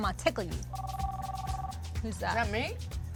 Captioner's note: cell phone ringing